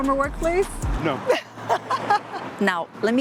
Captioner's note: laughs